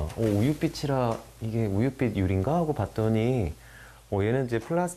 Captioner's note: creak~